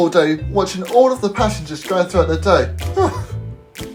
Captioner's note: laughs